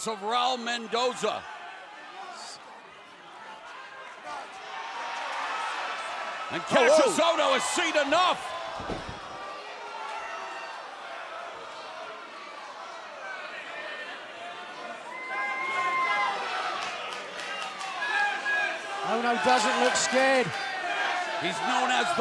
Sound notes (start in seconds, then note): 10.3 crowd chatter